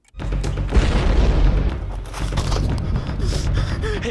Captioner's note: explosion